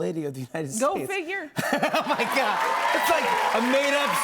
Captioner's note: laughs